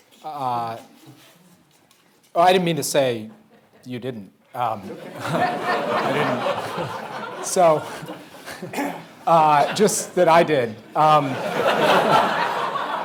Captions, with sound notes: I didn't mean to say you didn't. (audience laughing) - I didn't. - So just that I did. (audience laughing)